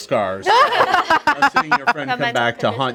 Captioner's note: group laughs